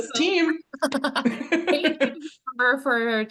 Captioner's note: laugh